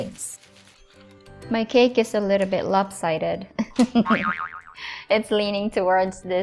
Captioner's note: chuckling